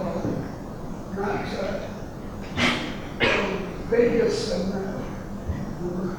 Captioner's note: rustling drowns out speaker